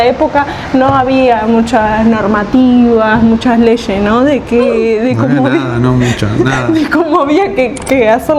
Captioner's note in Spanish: risas